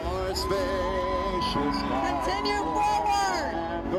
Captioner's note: crowd cheering